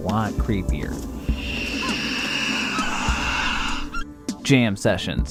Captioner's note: screams